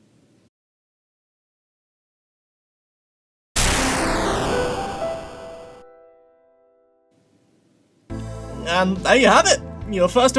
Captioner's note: video game explosion sound